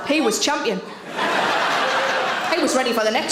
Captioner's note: audience laughs